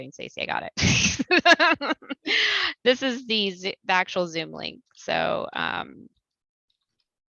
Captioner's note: laughter